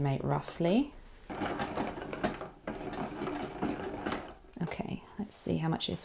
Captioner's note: ball winder ticks whirs